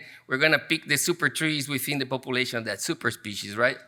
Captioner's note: none